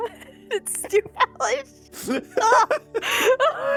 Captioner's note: laughing